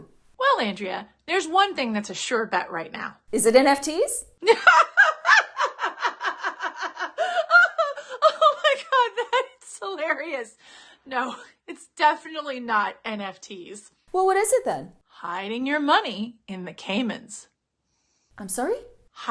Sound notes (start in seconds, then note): 4.4 laughter